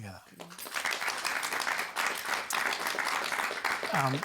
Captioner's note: applause